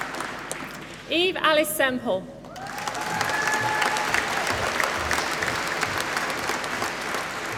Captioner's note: applause